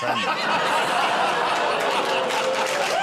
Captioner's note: audience ooh's; laughter and applause